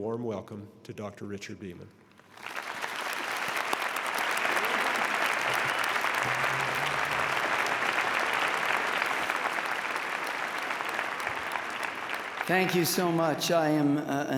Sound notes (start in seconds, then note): 2.2 applause